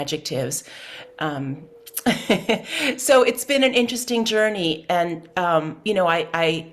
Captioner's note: laughs